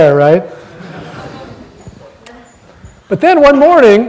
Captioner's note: audience laughing